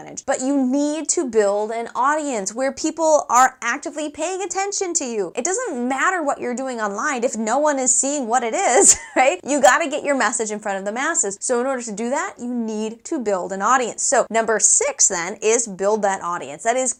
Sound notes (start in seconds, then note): 8.7 laugh